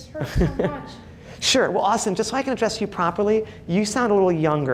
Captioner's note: laughs